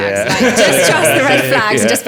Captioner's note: laughing